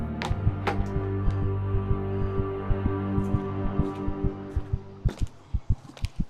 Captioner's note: heart beats; music stops